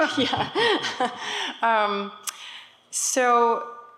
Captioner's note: laughs